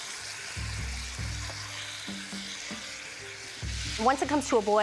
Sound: sizzling

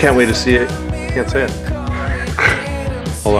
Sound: laughs

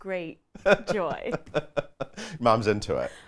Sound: laughs loudly

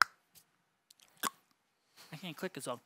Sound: clicks his tongue

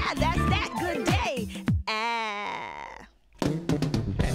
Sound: making short "a" sound

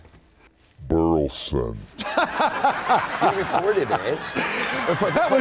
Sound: deep voice; laughter

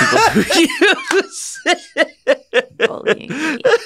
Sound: laughter

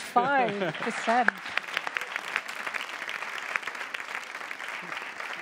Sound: audience applauds

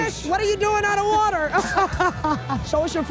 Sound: laughs

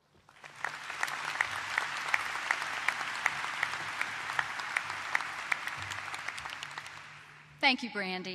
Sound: applause

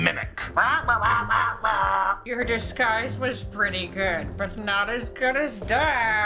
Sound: indignant squawking

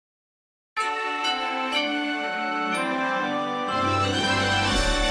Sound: majestic chime plays

